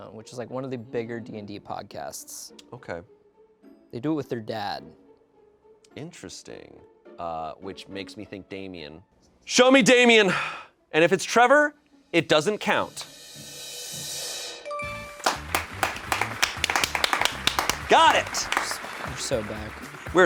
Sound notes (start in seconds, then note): 13.5 drum roll hisses; 14.7 bell chimes; 15.2 crew applauds